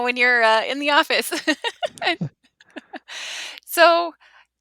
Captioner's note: laughs